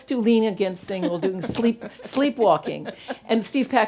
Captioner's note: laughing